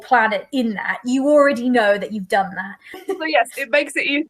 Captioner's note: laughs